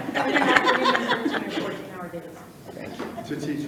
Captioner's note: people laughing